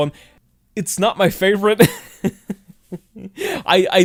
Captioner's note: chuckles